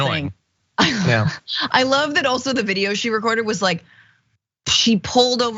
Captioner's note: laugh